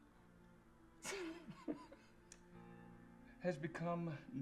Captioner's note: chuckling